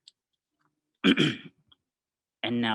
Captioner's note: clears throat